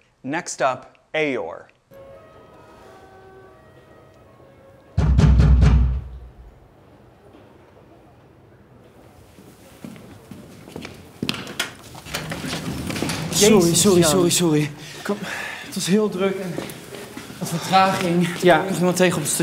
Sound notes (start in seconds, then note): 1.9 distant sirens; 5.0 knock on door; 8.8 footsteps echo; 15.5 speaking foreign language